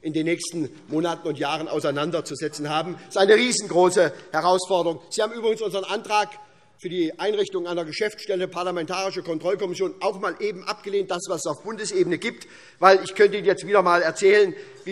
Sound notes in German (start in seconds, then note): none